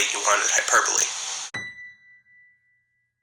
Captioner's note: ding